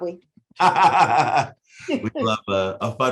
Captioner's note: chuckling